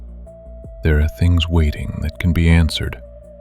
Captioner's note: low voice